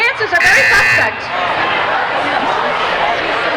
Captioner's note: buzzing